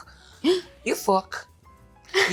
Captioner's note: Jenna gasps